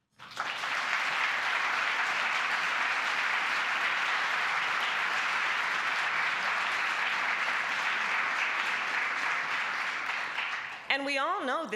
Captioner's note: applause